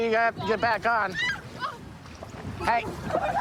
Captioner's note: screaming